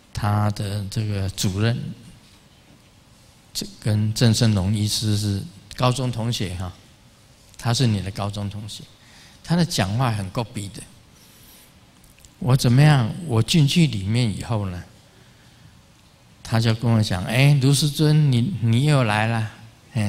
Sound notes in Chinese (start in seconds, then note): 11.5 台語